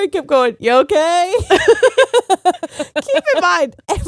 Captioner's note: both laughing